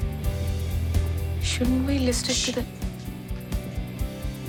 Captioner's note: sushing